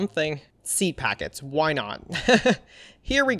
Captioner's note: laughs